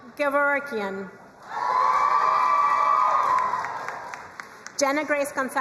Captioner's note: crowd cheering and applauding